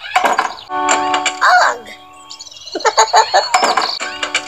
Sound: laughs

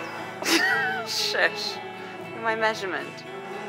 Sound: chuckling

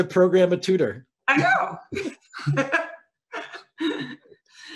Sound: chuckles

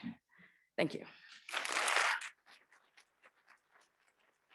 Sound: audience clapping

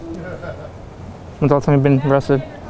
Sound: person laughs

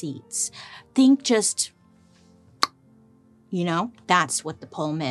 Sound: snaps lips

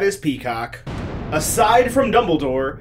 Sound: lightning crashing

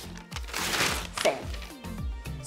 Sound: paper rips

